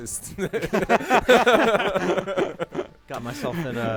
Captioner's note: laughter